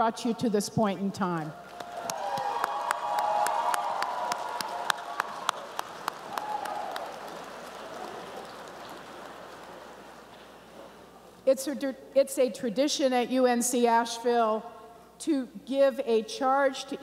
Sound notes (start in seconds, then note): 1.6 applause and cheering